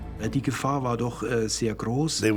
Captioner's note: speaking German